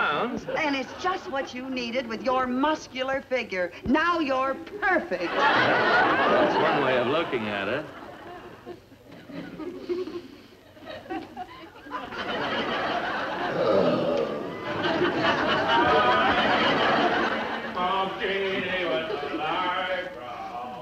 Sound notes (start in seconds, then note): 5.1 audience laughs; 13.4 grunts; 13.4 audience laughs; 17.7 singing